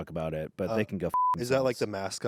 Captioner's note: beep